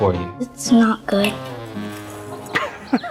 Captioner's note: plate rustling; laughs